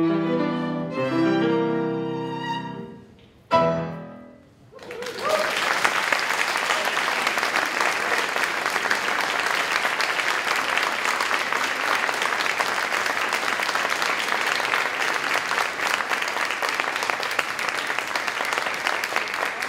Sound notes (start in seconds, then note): 8.9 applause, cheering